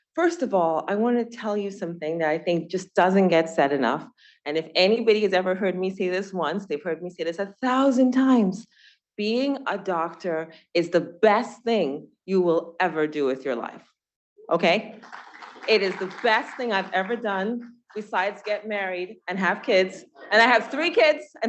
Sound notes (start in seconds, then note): 14.9 students clapping